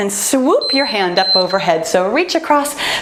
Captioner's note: timer beeps